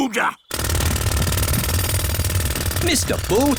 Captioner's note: drilling